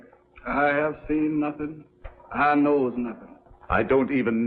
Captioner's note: with impersonal voice